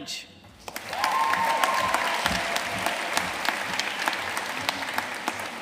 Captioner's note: audience cheering and applauding